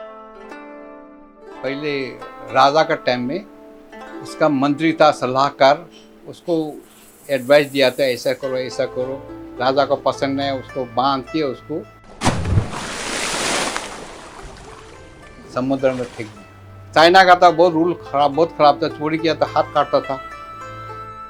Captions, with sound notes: Once upon a time in China, a king got frustrated with his minister’s bad advice, and ordered for him to be tied and *water splashing* thrown into the sea That was a tough time for China If caught stealing, they would cut off your hands